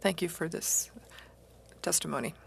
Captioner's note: speaking French